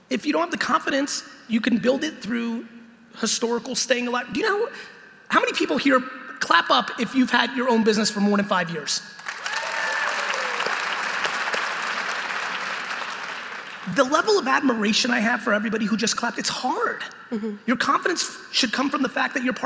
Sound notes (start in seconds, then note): 9.2 audience applauding